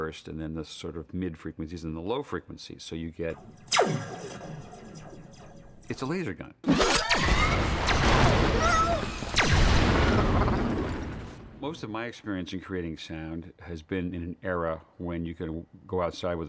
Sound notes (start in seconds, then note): 3.3 sound of laser gun firing; 6.7 whooshing; 8.5 wall-e screaming in alarm